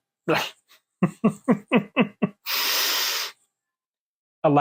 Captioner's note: chuckling